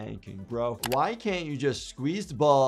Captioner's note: keyboard keys clicking